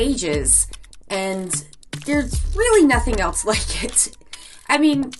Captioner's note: chuckles